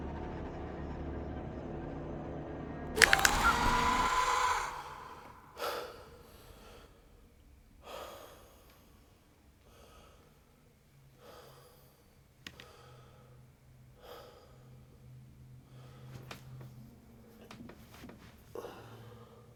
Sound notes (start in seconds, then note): 3.0 creature shrieks; 5.8 Triston breathing heavily; 15.7 Triston breathing heavily